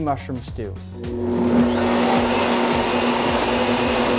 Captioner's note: blender runs